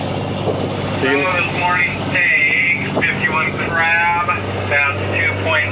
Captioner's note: boat engine roaring